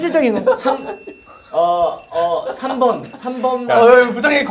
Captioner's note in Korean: 삐이- 삐비비비 삑! 삐삐삐삐삒!!